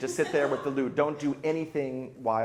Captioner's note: light laughing